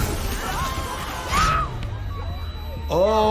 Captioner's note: robots screaming